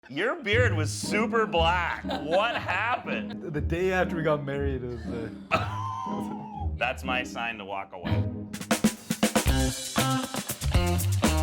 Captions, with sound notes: - Your beard was super black (laughing). What happened? - The day after we got married was the... - (laughing) That's my sign to walk away. (upbeat music)